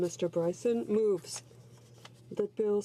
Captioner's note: speaking in french